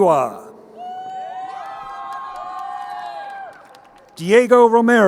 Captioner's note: crowd cheering